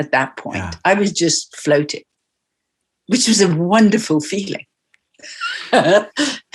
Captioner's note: laughs